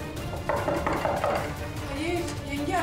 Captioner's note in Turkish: Kapıyı vuruyor